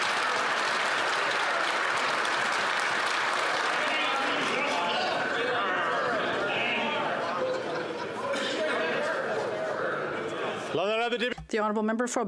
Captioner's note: some Applause